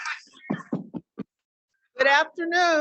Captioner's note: students chattering; mic thudding